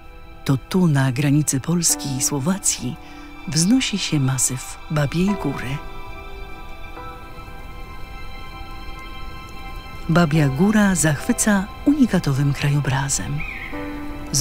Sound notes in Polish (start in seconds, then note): 6.7 w tle słychać szum wiatru oraz głos ptaków